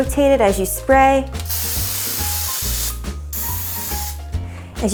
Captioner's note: spraying sound